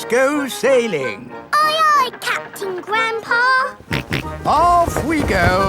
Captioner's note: snorts